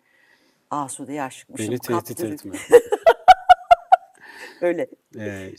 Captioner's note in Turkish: kahkaha